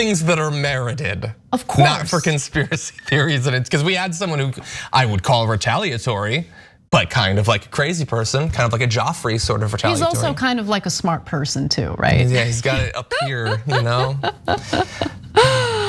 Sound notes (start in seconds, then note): 2.6 laugh; 12.4 laugh